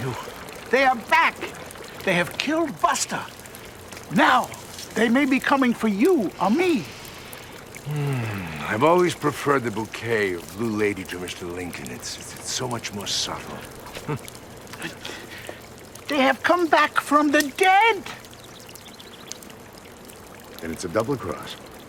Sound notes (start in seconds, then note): 13.8 chuckles